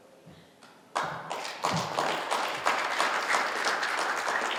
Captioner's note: applause